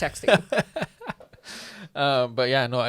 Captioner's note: laughs